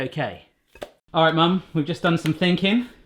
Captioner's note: meat plops